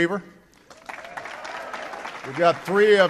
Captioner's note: applause